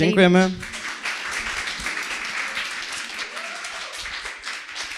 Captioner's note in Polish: oklaski